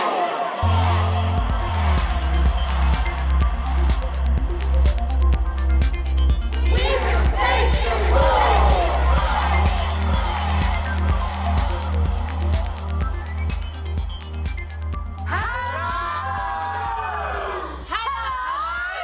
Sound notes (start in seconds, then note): 15.0 shouting